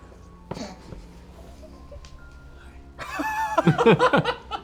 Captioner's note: laughter